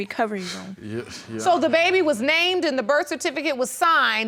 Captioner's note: stammering